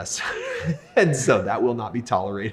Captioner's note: laughs